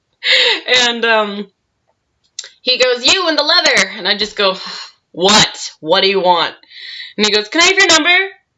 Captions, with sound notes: And, um He goes, "You, in the leather!" And I go, *sigh* "WHAT?! What do you want?" And he goes, "Can I have your number?"